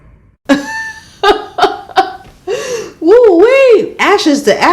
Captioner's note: laughs